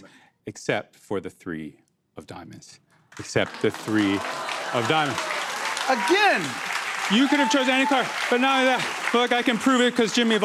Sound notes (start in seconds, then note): 4.9 applause